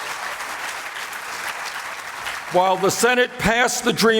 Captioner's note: applause